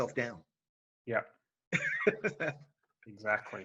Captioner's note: laughing